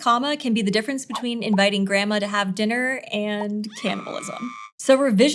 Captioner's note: gulp